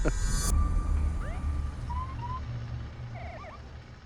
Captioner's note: siren